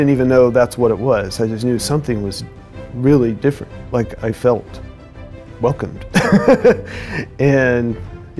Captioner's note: laughter